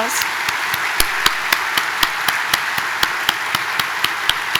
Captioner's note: audience applauding